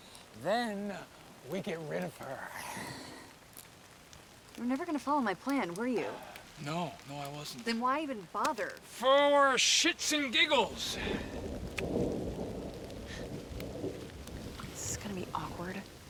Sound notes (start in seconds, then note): 9.9 thunder rumbling